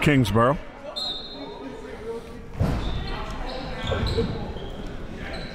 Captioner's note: referee blows whistle